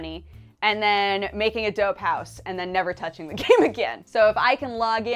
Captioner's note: laughs